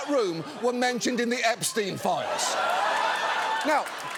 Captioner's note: audience laughs